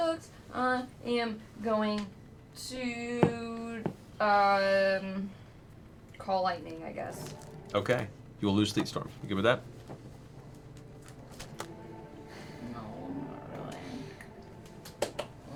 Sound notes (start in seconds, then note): 10.8 quietly